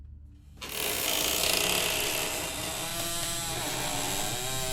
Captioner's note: door creaking